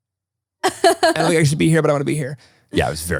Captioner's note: laughs